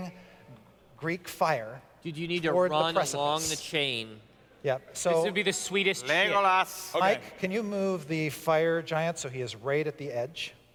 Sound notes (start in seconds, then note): none